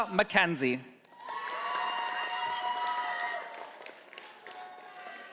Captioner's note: audience applauding